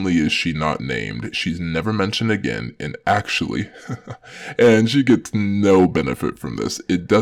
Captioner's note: nervous laughters